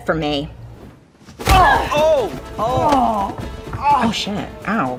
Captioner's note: blows landing; men groaning